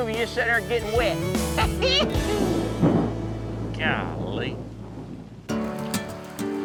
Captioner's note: thunderclap